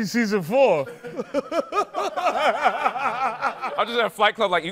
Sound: laughter

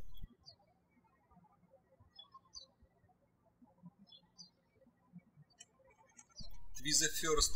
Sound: birds chirping

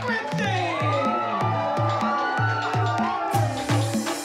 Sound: cheering

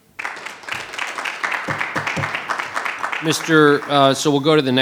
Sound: audience applauding

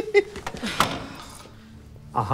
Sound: door opening sound

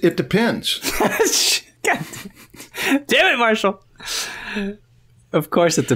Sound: laughter

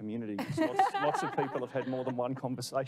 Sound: laughing

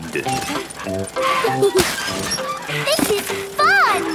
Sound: mummy and daddy pig panting; peppa and george laughing

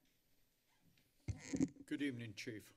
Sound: microphone rustling

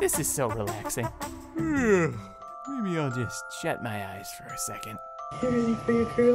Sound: yawning

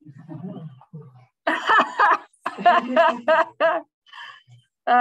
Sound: laughter

